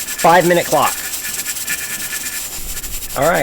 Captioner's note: more hissing and chattering